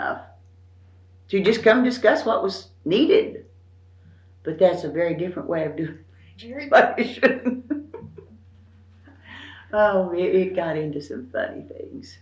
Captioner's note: laughs